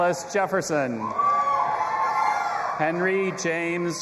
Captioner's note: audience applauding and cheering